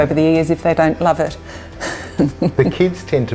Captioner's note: laughs